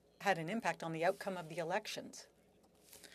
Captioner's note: speaking French